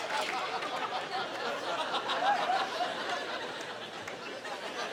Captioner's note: audience laughing